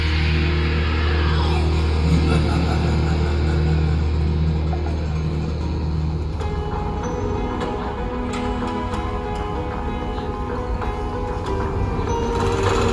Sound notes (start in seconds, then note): 1.3 laughing